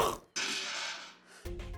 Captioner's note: crashing